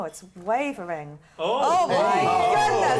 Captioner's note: all saying oh